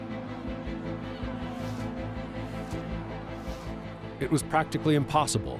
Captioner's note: crowd clamoring